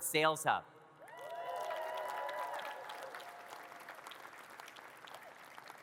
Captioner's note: audience cheers and claps